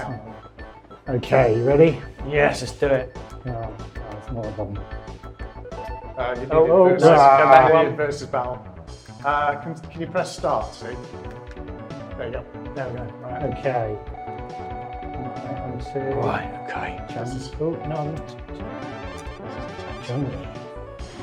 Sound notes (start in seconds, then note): 3.7 upbeat music; 4.9 video game beeps; 14.9 upbeat music; 19.1 video game beeping